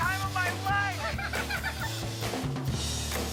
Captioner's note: giggling together